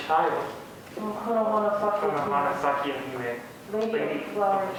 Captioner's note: speaking a foreign language